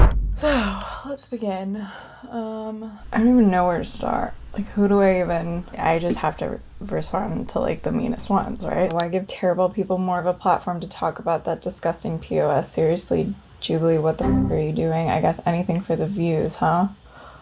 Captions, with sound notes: So let's begin. I don't even know where to start. Like who do I even... I just have to respond to like the meanest ones, right? Why give terrible people more of a platform to talk about that disgusting pos. Seriously Jubilee, what the (boing sound) are you doing? I guess anything for the views, huh?